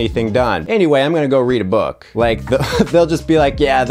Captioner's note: laughs